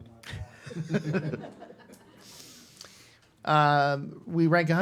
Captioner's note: all laugh